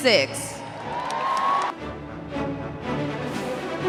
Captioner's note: audience cheering; processional music continues